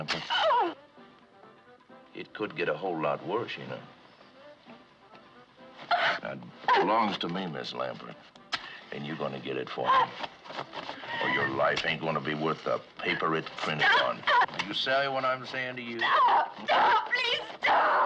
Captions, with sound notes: - [ Whimpers ] - It could get a whole lot worse, you know. [ Gasps ] - It belongs to me, Miz Lampert, and you're gonna get it for me... - [ Gasps ] or your life ain't gonna be worth the paper it's printed on. - You ''savez'' what I'm sayin' to you? - Stop! Stop! Please stop!